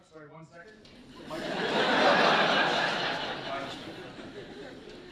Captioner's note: laughter